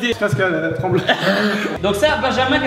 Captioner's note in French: rire